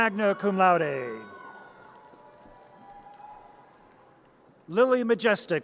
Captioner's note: audience cheers